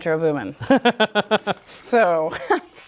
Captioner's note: laughs